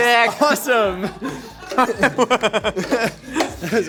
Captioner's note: laughing